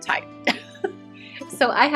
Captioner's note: laughs